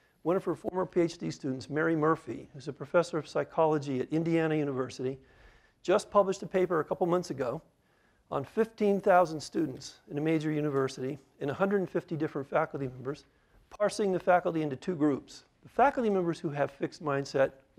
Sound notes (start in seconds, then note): none